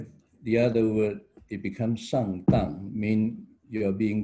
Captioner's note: mandarin chinese: sh�ng d�ng